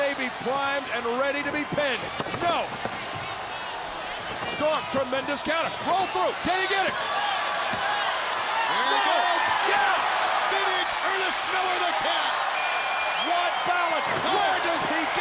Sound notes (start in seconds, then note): 7.2 crowd chatter; 8.0 crowd cheering; 12.2 crowd cheering